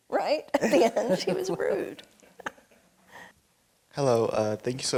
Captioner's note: laughing